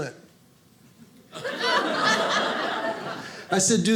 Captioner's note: audience laughing